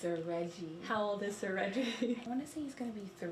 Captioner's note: laughs